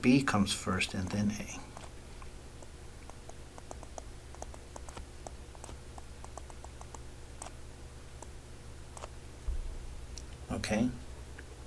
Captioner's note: writing Sounds